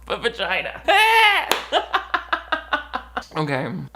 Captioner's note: laughs